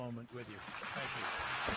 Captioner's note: applause